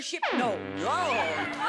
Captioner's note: buzzer sounds